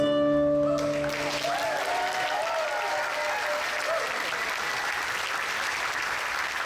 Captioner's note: audience applauds; audience cheers